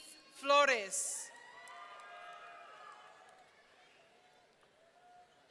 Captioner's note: audience cheering